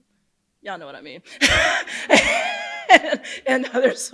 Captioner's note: laughs